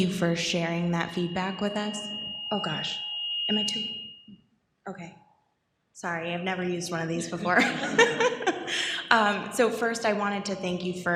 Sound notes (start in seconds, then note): 7.3 audience laughs